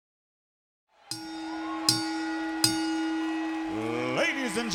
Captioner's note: bell dings